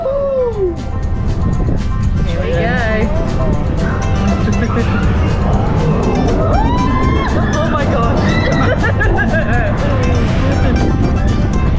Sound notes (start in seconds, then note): 1.1 upbeat country music; 6.2 yells; 9.7 laughs